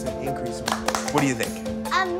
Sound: clapping

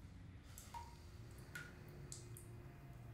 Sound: water dripping

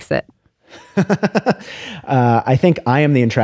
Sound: laughter

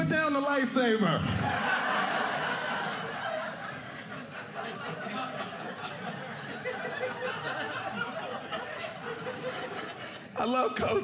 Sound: laughter

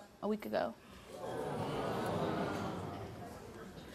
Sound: audience groans

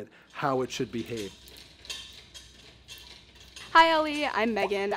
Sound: chains clanging

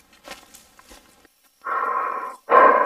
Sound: breathing; grunts

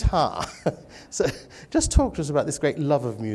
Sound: laughter

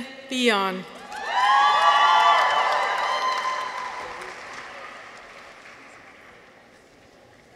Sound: people cheer; audience applauds

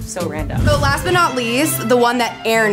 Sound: whooshes

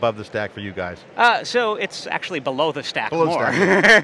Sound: laughs

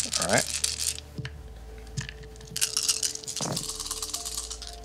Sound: dice rattling

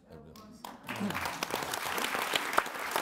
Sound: audience applauds

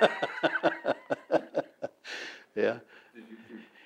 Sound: both laugh

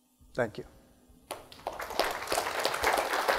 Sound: applause

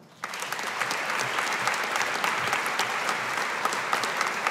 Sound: audience applauding

